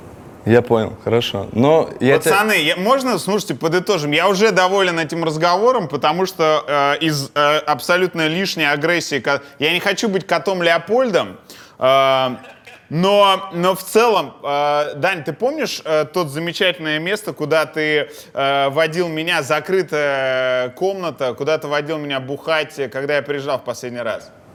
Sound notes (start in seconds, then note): 12.1 Poperechniy laughs